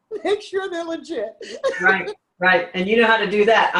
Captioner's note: laughs